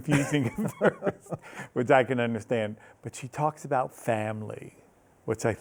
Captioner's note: both laughing